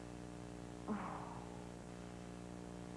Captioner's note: Reva sighs